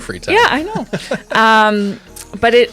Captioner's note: laughing